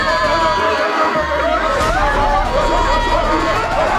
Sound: commotion

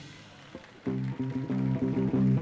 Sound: dynamic music; audience applauding

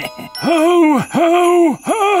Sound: sleigh bells; evil laugh

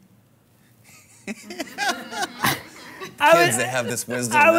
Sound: and Audience laughing

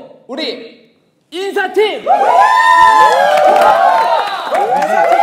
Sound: shouting

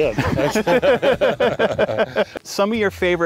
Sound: group laughing

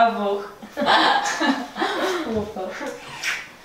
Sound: chuckles

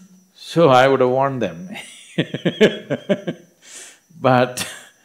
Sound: laughs

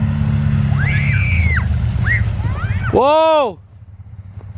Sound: kids screeching

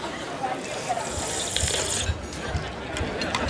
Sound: slurping

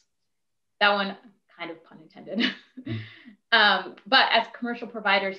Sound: laughs

